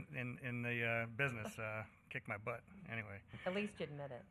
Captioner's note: laughter